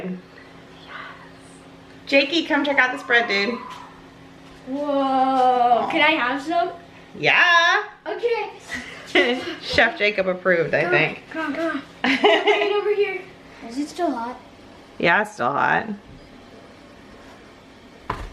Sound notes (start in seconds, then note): 12.0 laughing